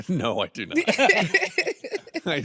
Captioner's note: laugh